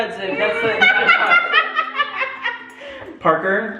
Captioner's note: mom laughs loudly